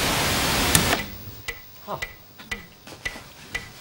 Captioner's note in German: Uhr tickt